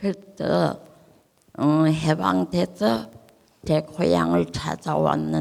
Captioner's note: speaking in foreign language